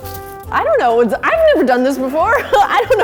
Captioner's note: laughs